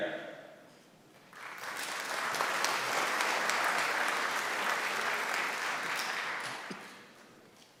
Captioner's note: applause